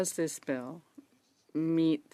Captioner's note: speaking in French